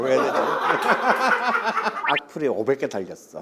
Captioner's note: hhahaHHahaahhaHah